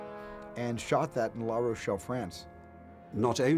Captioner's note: none